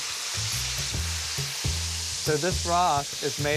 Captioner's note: sizzling